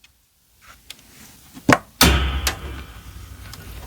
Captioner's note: warning: loud bonk sound!!